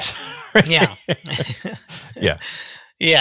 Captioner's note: chuckles; laughs